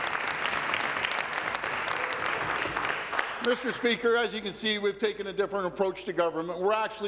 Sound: applause

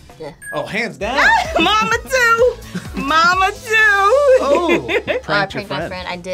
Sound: laughs

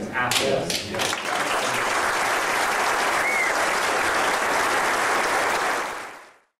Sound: audience applause

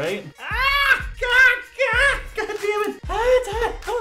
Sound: yelling in pain

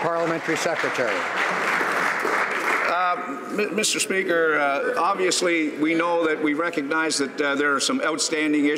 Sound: some Applause

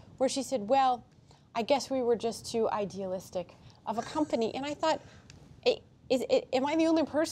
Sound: laughter

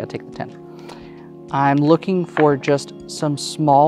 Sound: dice clattering

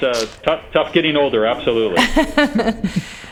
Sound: laughter

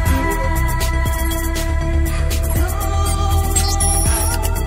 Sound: electronic beeping

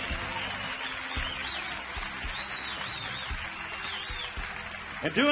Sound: audience cheering

